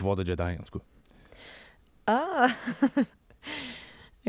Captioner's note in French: rire